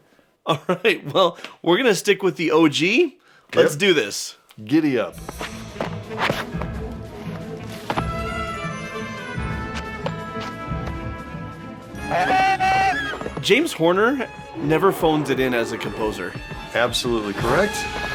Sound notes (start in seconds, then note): 12.0 baby battle cry